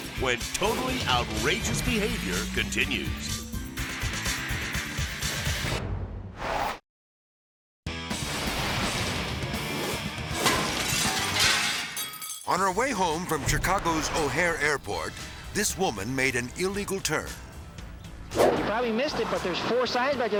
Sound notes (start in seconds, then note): 3.2 upbeat rock music; 6.3 logo whooshes; 8.1 metal clattering; 9.0 hard rock music; 10.4 glass shatters